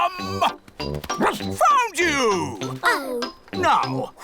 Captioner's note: barks